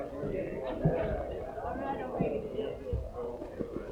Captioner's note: people chattering